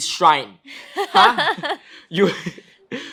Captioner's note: both laugh